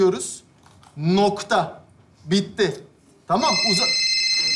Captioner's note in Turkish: telefon çalar